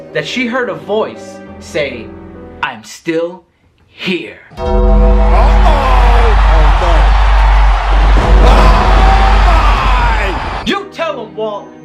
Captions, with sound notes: that she heard a voice say, "I'm still here." (bell tolls) (thunder rumbles) You tell 'em, Walt!